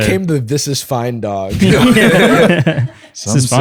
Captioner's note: laughter